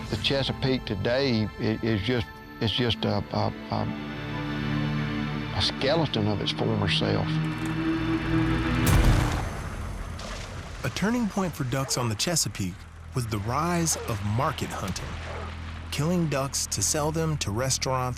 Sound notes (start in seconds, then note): 8.8 gunshot